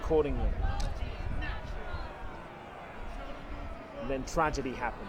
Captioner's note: distant booing and clamoring